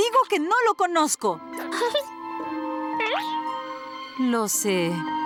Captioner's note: caterpillar noises